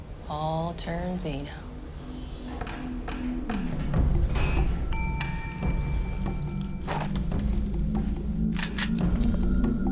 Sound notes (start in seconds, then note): 5.0 elevator dings